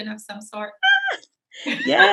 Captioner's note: laughing